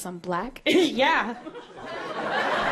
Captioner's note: audience laughter; chuckling